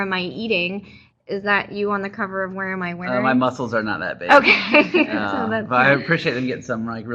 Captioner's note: laughing